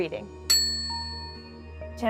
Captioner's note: ding; ominous music